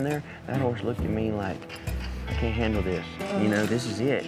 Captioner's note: none